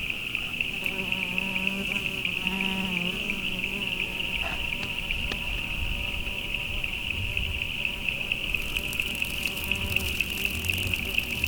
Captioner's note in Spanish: sumbidos de escarabajos